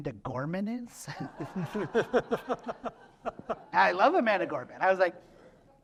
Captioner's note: laughter